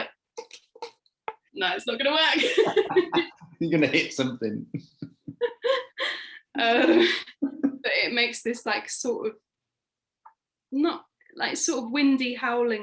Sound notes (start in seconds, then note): 2.3 laughing; 5.2 laughing